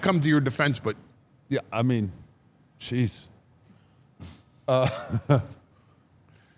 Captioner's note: chuckles